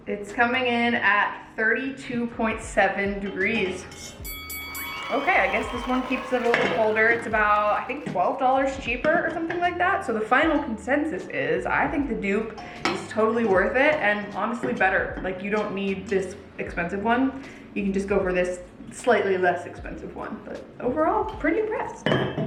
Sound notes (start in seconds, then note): 4.2 bell dings; 4.3 crowd cheering; 22.3 tumblers thuds